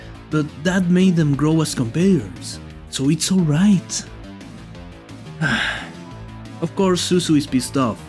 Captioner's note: sigh